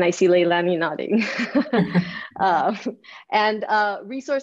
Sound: laughs

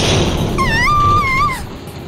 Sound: fearful scream

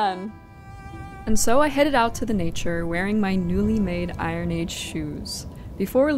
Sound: wind blowing

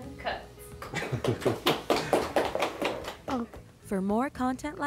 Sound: studio applause

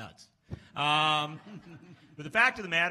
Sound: laughs

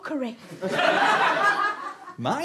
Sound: audience laughter

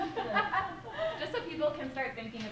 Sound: laughter

